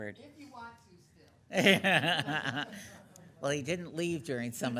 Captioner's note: laughing